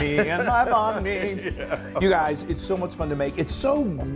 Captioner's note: laugh